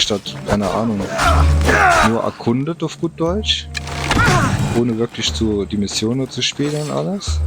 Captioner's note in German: schreien